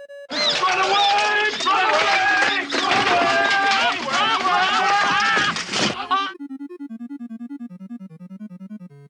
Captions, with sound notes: Run away! Run away! [screaming and shouting]